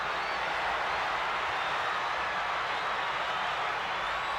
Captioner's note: crowd cheers